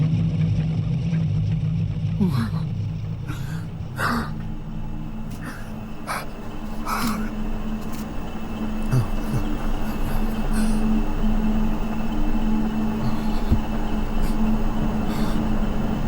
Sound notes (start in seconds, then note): 2.1 Ben gasps